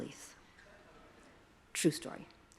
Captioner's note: attendees chuckle